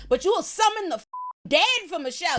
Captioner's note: beep